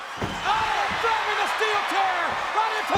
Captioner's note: audience cheers